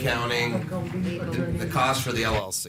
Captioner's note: audience chattering